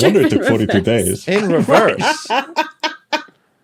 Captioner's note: laugh